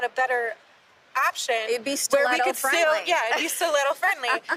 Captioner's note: laughs